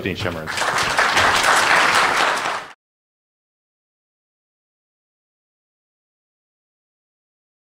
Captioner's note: applause